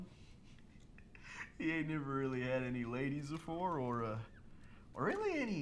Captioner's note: laughs